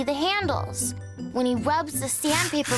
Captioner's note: scratching sound